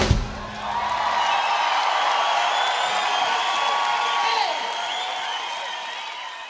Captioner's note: applause